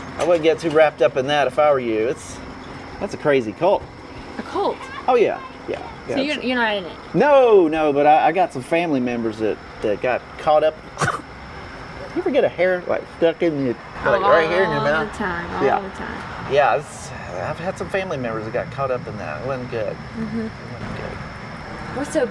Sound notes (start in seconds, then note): 10.8 coughs